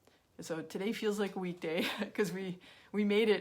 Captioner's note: chuckles